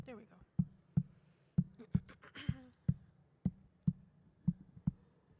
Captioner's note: slow tapping continues